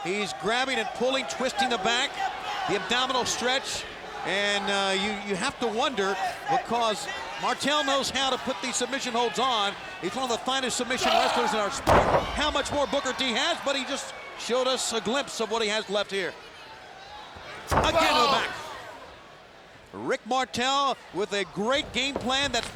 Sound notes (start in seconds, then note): 16.5 fans cheering